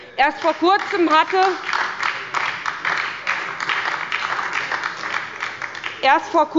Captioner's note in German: Beifall bei der SPD und der LINKEN